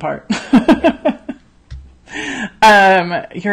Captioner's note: laughs